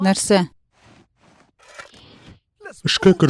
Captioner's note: Bender crinkles